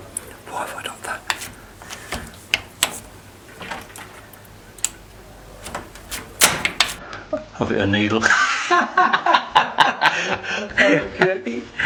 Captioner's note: laughter